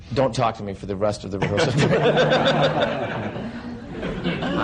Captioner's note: laughter